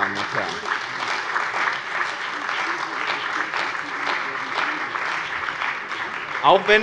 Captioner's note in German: Beifall bei dem BÜNDNIS 90/DIE GRÜNEN und der CDU sowie bei Abgeordneten der FDP